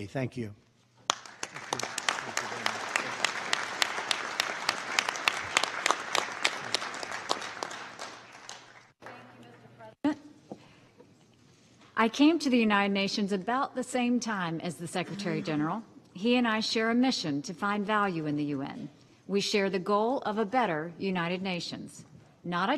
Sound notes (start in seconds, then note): 1.0 applause